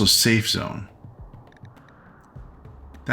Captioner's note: silence